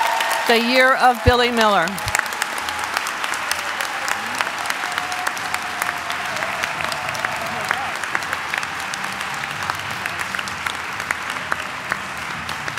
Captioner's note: applause